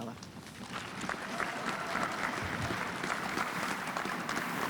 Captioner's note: audience applauds